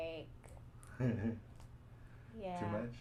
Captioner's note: chuckles